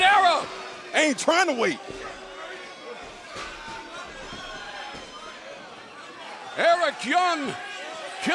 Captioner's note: crowd chatter